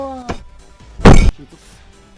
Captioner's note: smash; slap